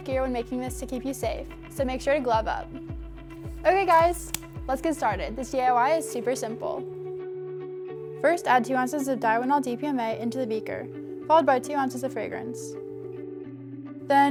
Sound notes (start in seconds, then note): 3.3 glove snaps